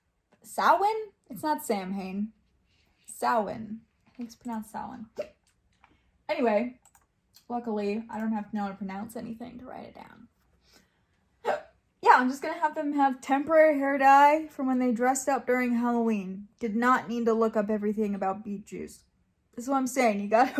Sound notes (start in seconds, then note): 5.1 hiccups; 11.4 hiccups